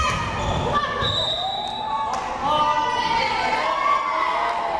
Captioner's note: whistle blares